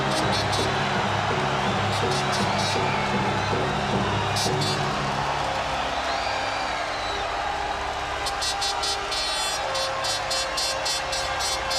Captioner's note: crowd cheering